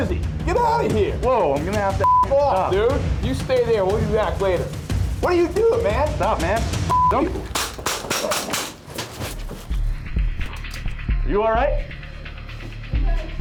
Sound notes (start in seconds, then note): 7.4 gunshots; 10.0 thrilling music